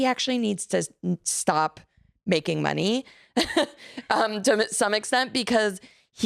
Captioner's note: laughs